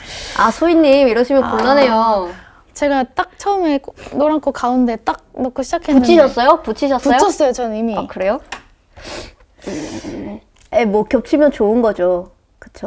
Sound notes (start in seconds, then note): 9.0 sniffles